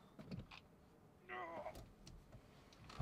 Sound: groaning

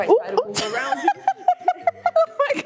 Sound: laughing

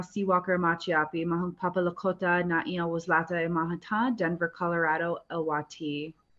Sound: speaking Lakota

